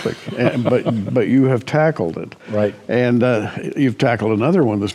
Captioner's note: chuckles